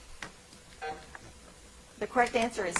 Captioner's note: timer buzzing